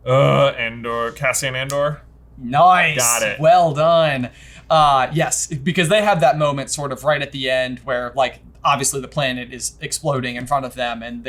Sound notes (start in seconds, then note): 0.0 groans; 2.5 snaps